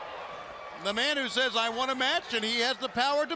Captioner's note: crowd cheering